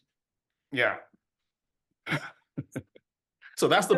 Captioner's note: laughs